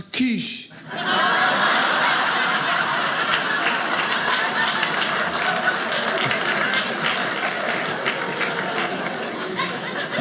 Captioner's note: audience laughing